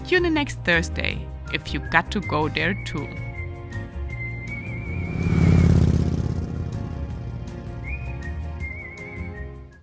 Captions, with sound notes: Tune in next Thursday if you GOT2GO there too. (lively music) (motorbike roaring)